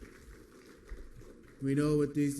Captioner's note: applause